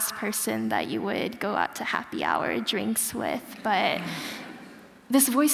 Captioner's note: laughter